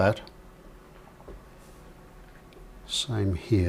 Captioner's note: silence